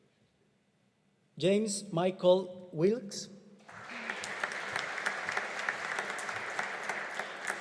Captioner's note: audience applauding